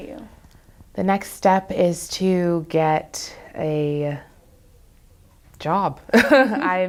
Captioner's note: laughs